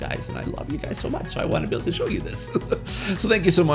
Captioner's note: chuckles